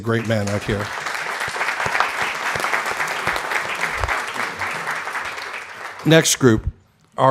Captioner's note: applause